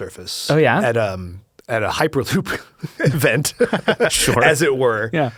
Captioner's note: laughs